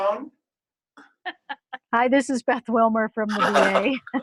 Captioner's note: laughter; laughter